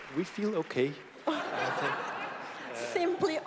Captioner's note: laughter